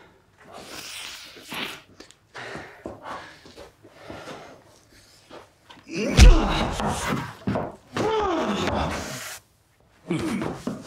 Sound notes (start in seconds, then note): 0.6 nose sniffs; 6.1 fist slams; 8.0 Emmett grunts